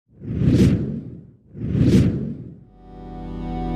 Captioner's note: slide swooshing; intense music